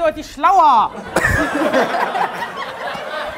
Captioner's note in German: Gelächter